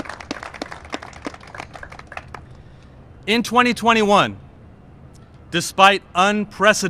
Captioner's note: cheers and applause